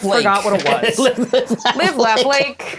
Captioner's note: chuckling